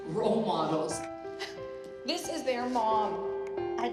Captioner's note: sharp exhale